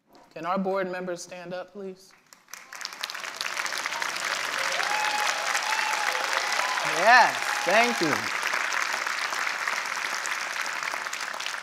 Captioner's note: applause